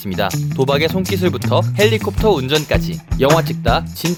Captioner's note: tap tap tap